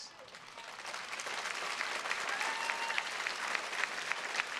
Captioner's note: attendees clapping